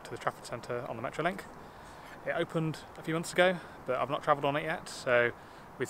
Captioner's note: none